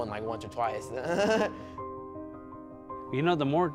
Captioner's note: giggling